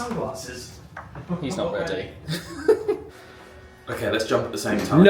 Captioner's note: laughs